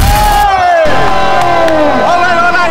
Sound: applauding

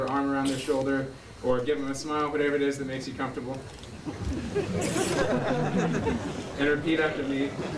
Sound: laughter

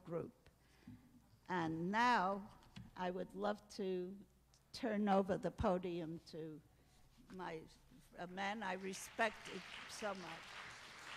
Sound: applause

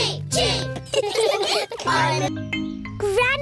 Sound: all laughing

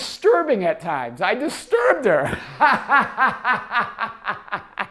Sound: laughs

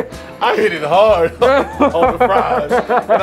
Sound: laughs

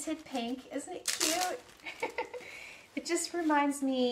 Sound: laughs

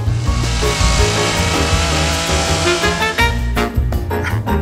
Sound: chainsaw engine revs

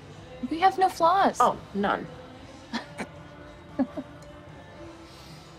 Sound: both laugh

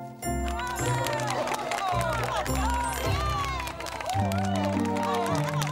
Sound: applause starts again

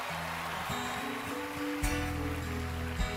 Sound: cheering, applause

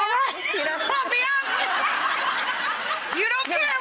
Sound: audience laughs

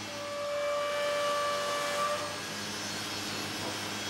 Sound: machine noise

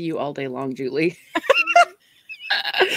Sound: laughing

